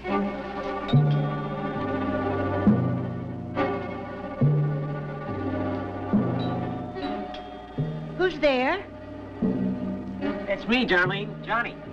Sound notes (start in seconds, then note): 0.1 ominous music; 0.9 bell rings